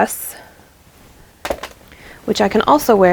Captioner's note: clatter